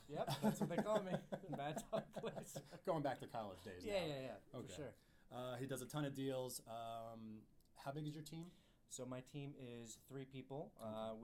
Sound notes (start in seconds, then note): 0.1 laughs